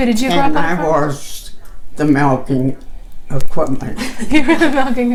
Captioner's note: laughing